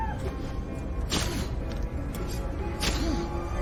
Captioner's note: screaming and sobbing; grunting